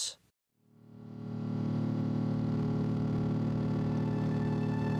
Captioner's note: plane engine running; gentle instrumental music